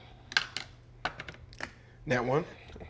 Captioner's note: dice clatter